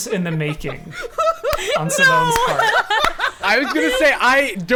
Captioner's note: laughing